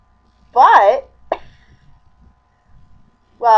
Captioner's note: chuckle